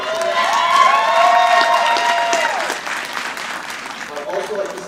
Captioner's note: audience applauding